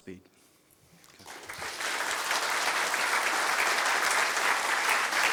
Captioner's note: applause